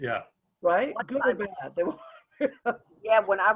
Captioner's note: chuckles